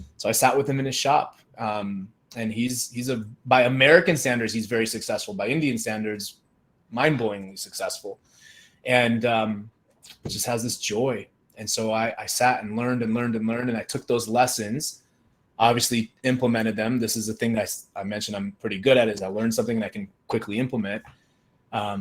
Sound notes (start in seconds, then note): none